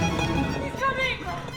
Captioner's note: hammer blows